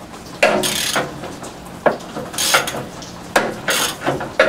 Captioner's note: ratchet sound